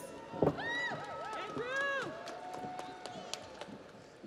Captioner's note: audience cheers; audience applauds